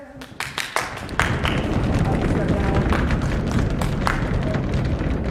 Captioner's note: feet stomping